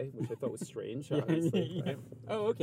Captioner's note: laughs